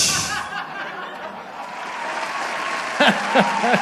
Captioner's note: canned applause